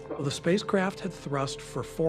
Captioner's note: navigators chattering